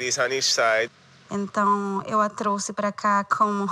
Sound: non-english speech

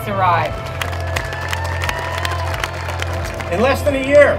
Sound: applause

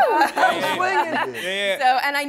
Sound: laughs

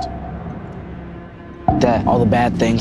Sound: suspenseful tapping

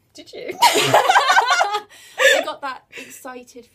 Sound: both laugh

